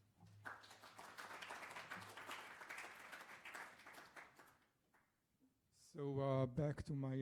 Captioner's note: applause